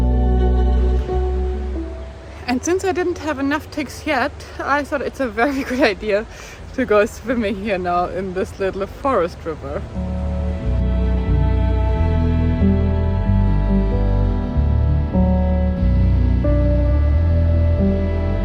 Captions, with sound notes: (water flows) - And since I didn't have enough ticks yet, I thought it's a very good idea to go swimming, you know, in this little forest river. (slow music continues)